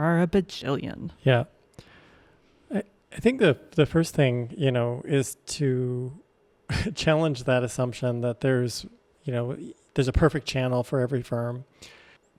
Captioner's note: chuckles